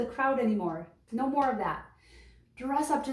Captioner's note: hands clapping